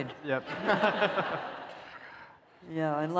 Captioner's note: laughter